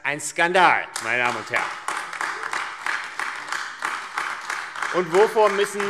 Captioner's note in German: Beifall AfD